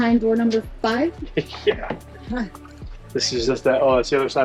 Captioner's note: chuckling